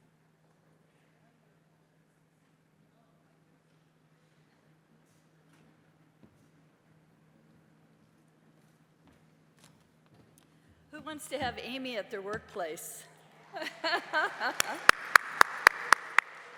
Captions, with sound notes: Who wants to have Amy at their workplace? [LAUGHS] [APPLAUSE]